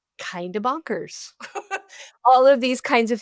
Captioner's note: laughs